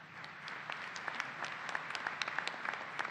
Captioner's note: applause